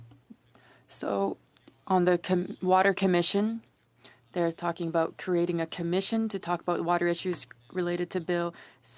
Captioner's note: speaking French